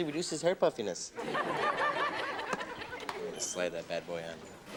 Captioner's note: audience laughs